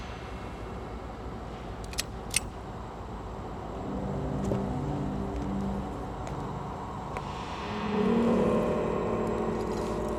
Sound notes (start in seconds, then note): 1.8 gun clicks; 5.6 ominous music